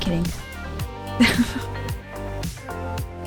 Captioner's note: laughing